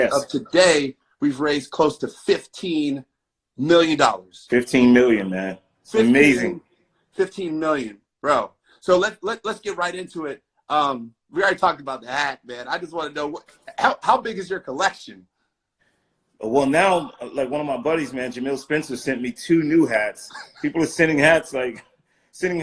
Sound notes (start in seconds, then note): 20.4 laughing